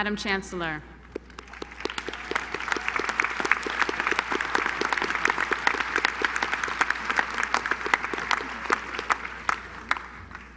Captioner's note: applause